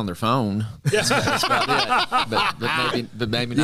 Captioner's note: laughter